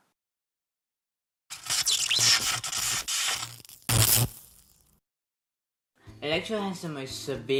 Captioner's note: text pops up screen, with electricity sound effects